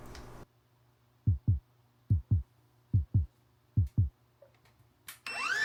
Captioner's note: heart pounding